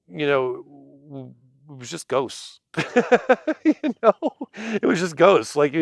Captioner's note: laughs